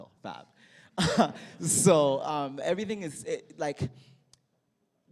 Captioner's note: laughter